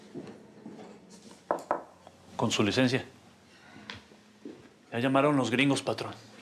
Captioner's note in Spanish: toques en la puerta